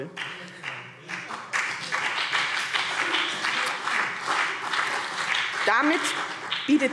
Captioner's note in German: Beifall BÜNDNIS 90/DIE GRÜNEN und vereinzelt CDU